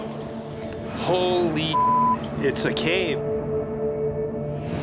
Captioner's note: beep